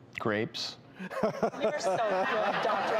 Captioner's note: laughs